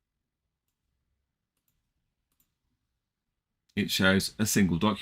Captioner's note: mouse clicking